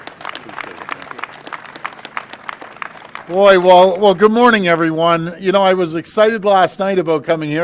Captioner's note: applause